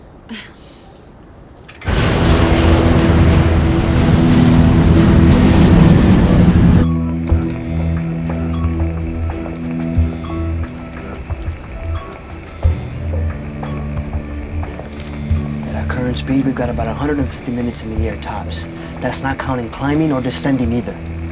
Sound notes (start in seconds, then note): 10.1 radar beeping